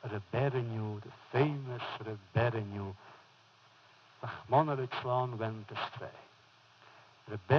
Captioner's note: foreign language